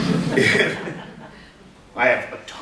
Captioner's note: audience giggles